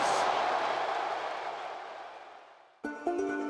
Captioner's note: applause